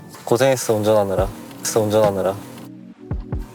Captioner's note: patting